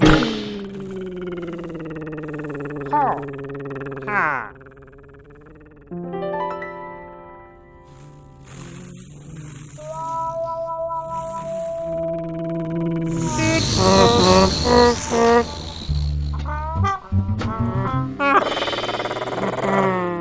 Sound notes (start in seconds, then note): 0.0 engine purring; 0.1 bang; 12.7 engine purring; 13.2 loud honking